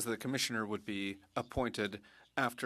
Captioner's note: speaking French